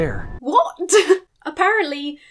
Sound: chuckles

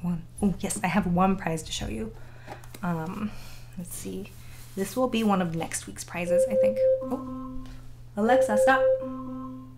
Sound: chiming sound

